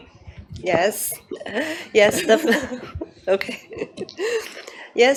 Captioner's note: laughs